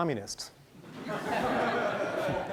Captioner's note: laughing